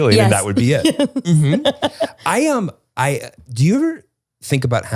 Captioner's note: laughs